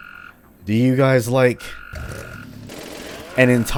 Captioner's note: Got-Your-Backie roars, Matango army awakens